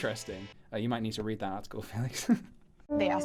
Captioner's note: giggle